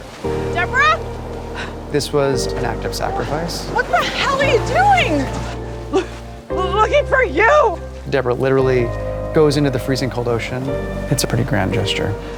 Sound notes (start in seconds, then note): 5.8 sobbing